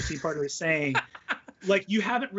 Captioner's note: laughs